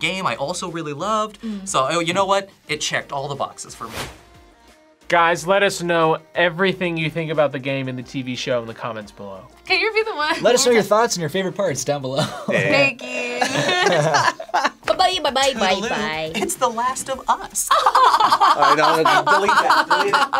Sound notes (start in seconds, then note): 13.3 all laugh; 17.7 both laugh exaggeratedly